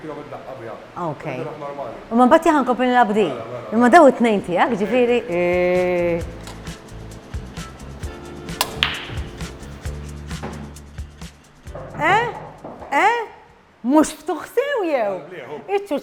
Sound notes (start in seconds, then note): 8.6 balls clack